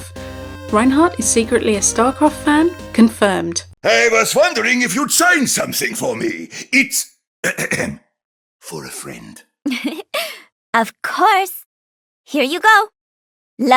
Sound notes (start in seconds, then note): 7.4 clears throat; 9.7 laughing